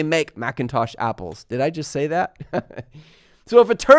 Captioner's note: laughs